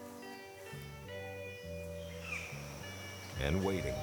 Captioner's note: birds chirping